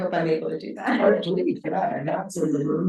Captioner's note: chuckles